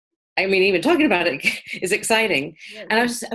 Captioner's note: laughs